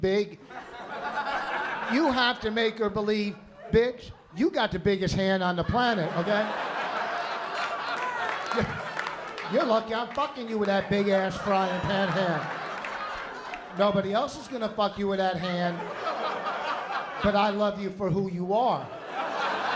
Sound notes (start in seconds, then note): 0.4 laughter; 7.3 laughter; 13.2 laughter; 16.6 laughter